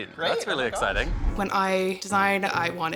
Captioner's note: image whooshes